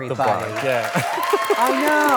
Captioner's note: audience cheering